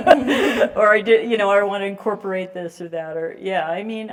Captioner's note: laugh